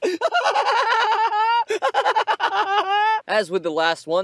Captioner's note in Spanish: Risas escalofriantes